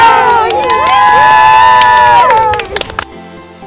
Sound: cheering; happy music

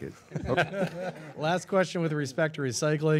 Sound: all laughing

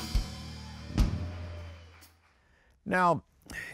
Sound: audience applauds and cheers

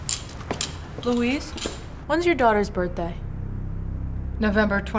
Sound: footsteps

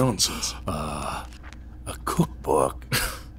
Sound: laughing

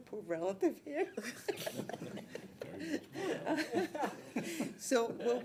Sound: people laughing

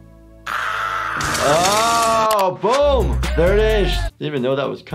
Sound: gentle music; screams; Marge screaming

